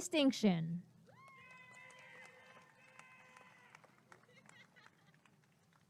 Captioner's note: applause and cheering